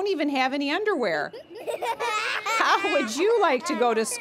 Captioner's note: laughter